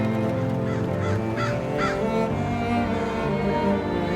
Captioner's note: crow calling